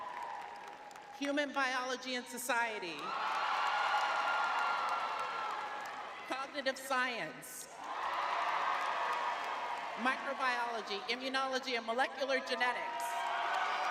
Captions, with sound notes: [crowd cheering] Human biology and society. [crowd cheering] Cognitive science. [crowd cheering] Microbiology, immunology, and molecular genetics.